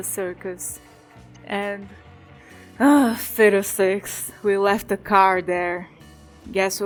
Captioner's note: sigh